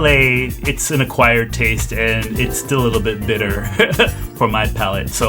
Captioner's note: laughs